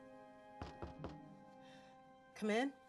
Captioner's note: knocks on door